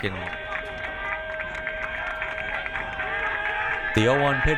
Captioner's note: crowd cheering